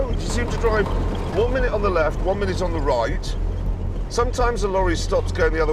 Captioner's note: none